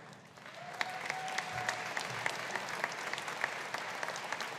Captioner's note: audience applauding